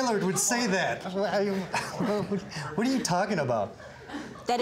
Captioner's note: laughing